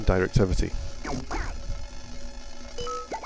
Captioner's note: digital Sounds